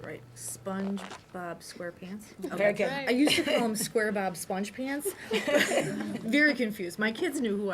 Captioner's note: laughter